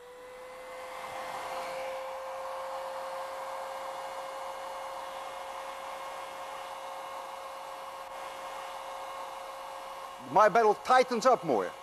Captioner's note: motor purring